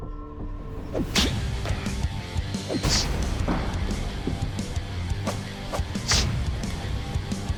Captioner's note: impact sounds